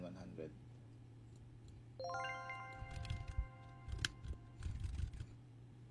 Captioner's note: click; typing